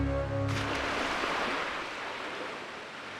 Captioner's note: water splashing